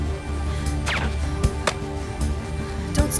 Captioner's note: dart thuds